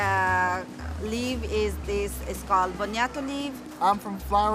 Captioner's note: speaks in foreign language